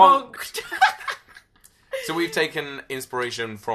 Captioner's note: laughs loudly